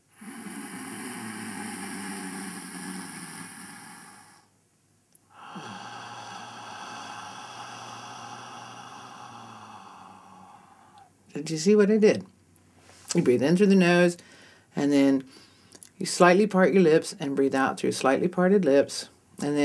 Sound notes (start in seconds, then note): 0.2 sound of inhalation - "Hhhhh"; 5.3 sound of exhalation - "Haaa"